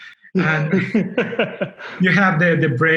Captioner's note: laughing